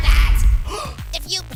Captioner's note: gasp